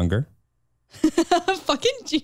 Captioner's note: chuckles